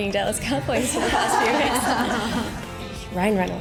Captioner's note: laughter